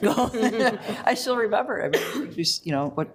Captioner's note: laughs